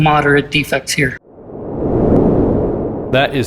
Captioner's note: air whooshing